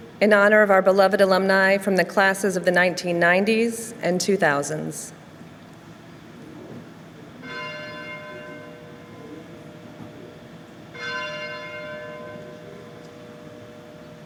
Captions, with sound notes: In honor of our beloved alumni from the classes of the 1990s and two thousands. (bell ringing)